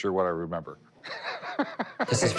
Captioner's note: laughs